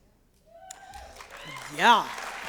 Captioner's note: cheering